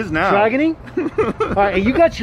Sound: laughs

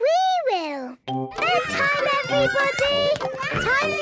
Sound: children playing

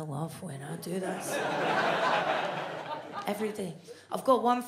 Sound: audience laughs

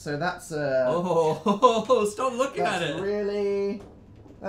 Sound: really grossed out noises

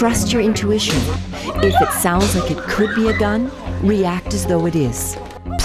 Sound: cries in the background

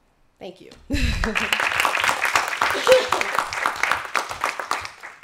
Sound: applause

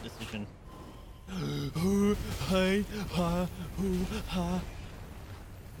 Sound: panic noises

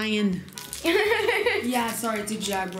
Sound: laughing

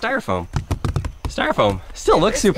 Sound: knocking

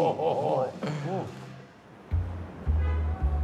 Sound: men laughing

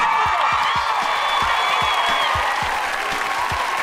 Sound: cheering

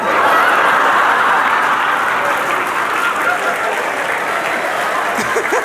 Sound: loud laughter and applause

